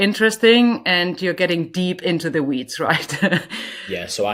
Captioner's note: chuckles